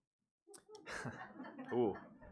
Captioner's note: laughing